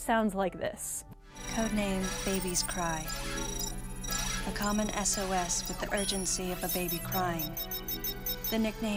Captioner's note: extremely flat robotic voice